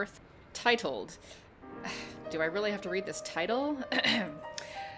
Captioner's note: sigh